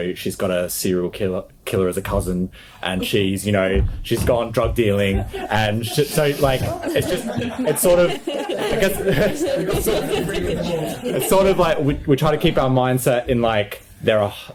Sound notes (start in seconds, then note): 6.7 group laughs